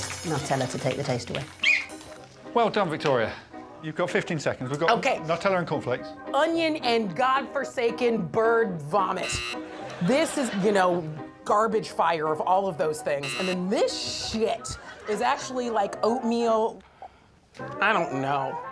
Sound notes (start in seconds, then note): 1.6 whistle blowing; 9.2 buzzing; 13.3 buzzing